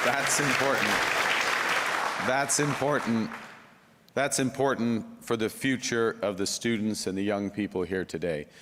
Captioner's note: applause